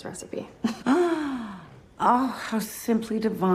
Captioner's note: gasps